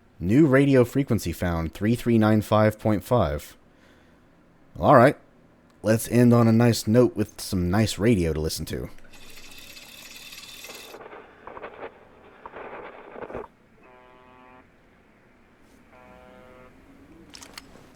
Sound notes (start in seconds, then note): 9.0 radio cranking